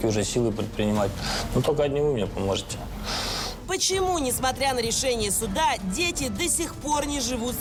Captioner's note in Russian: фыркает